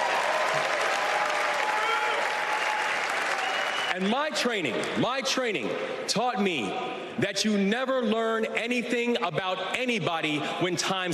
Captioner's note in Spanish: Aplausos